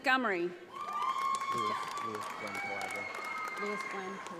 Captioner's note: audience applauds